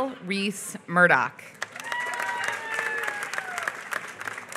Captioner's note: applause